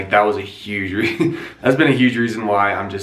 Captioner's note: giggles